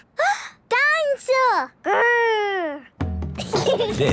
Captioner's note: gasps; children giggling